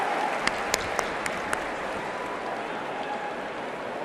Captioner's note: cheering and applause